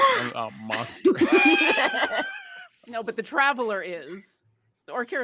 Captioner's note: group laughs